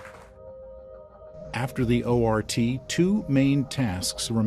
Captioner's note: attendees applauding